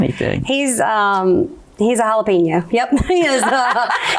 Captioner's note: laughs